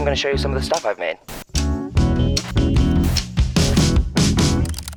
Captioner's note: screen hissing